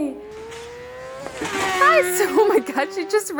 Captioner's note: engine whirring